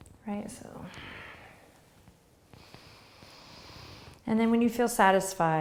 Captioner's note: breathing